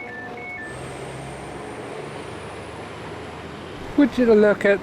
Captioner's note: doors beeping; train engine